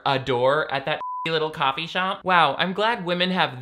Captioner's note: beep